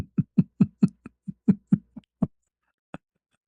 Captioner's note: ketawa